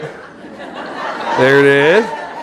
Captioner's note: audience laughing